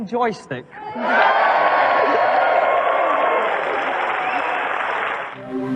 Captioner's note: cheering